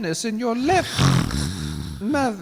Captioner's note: snoring